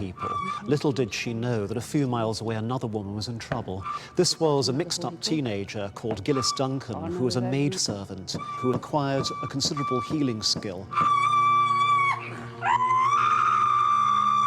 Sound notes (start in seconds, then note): 10.9 screaming continues